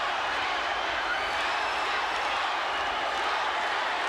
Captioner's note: audience cheers